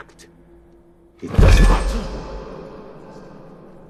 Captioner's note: slams table